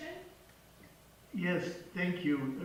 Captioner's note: voice on phone